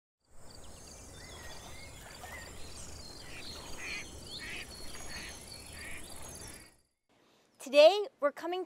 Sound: birds chirpping, ducks quacking

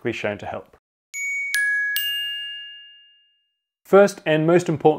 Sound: dinging sounds

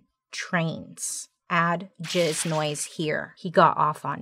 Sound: liquid splashing

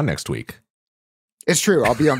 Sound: laughs

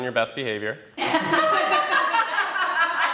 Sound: laughing

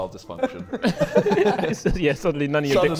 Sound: Sidemen laughing

